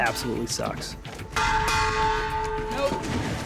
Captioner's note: banging